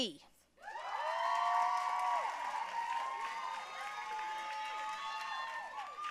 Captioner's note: audience cheering and applauding